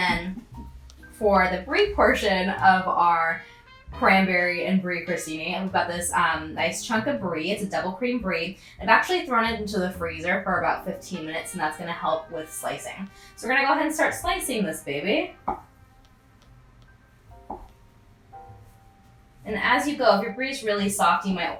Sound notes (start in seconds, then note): 15.5 knife slicing